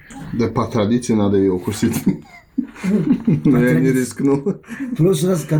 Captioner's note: laughs